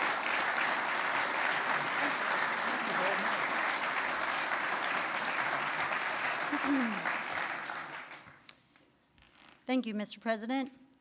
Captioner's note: applause